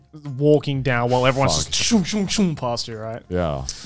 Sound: imitates swooshing

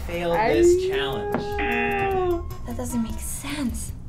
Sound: buzzer rings

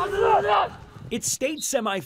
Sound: sounds of football practice

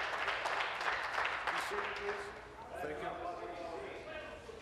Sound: applause

